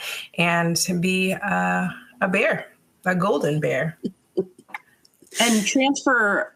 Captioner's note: chuckling